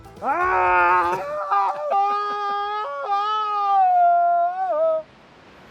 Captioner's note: laughing